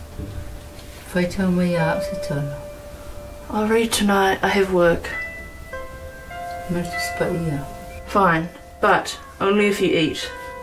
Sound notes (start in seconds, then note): 1.2 speaking in Samoan; 6.9 speaking in Samoan